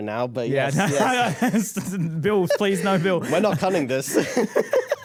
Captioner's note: laughing